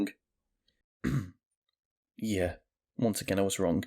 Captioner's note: cough